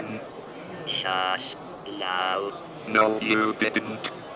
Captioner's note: computer voice